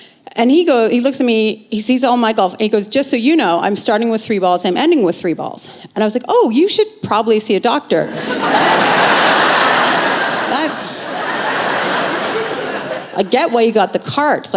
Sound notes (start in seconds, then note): 8.1 laughter